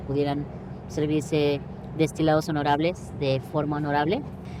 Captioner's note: speaks Spanish